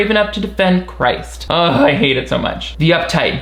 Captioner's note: grunts